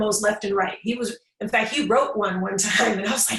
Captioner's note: laughs